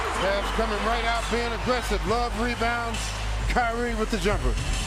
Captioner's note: crowd noise